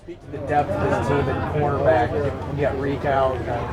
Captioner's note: newsroom chattering